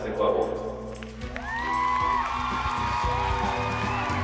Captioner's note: cheering